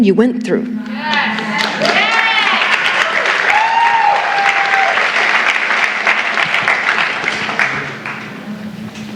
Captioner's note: cheering and Clapping